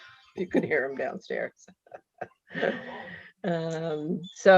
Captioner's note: laughs